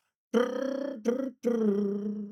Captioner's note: humming